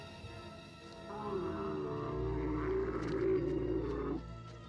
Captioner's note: camel groaning